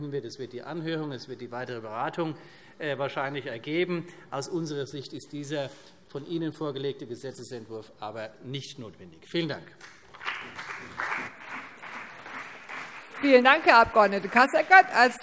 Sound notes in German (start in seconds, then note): 9.8 Beifall CDU und BÜNDNIS 90/DIE GRÜNEN